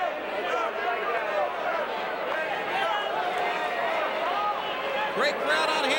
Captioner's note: audience indistinct yelling